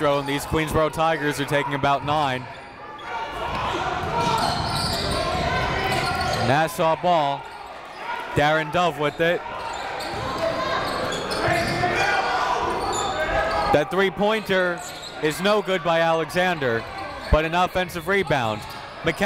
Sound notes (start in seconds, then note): 3.3 coaches yelling; 3.3 crowd talking